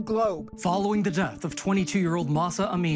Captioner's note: soundbite of archived recording